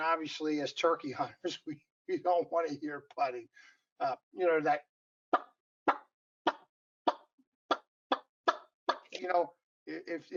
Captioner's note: turkey call sounds